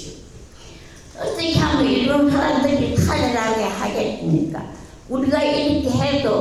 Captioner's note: speaking in foreign language